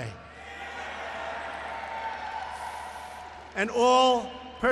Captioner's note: laughter and applause